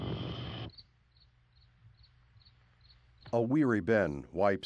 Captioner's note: crickets chirping